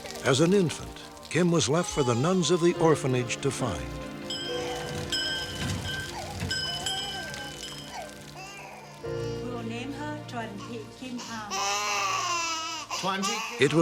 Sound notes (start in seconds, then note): 4.2 bell ringing; 4.3 baby crying; 11.1 baby crying